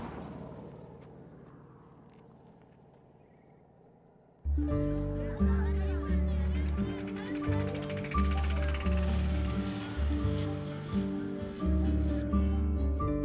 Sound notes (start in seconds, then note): 8.9 indistinct chatter